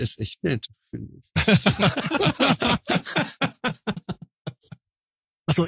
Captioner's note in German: Lachen